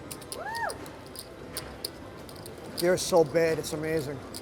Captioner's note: soft cheering